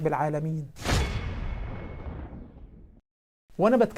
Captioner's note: sound effects